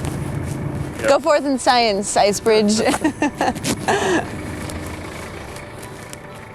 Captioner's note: laughing